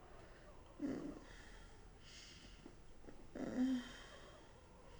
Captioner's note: Jane moaning